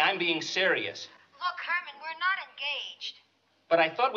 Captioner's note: on phone